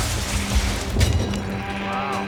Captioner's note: tires screech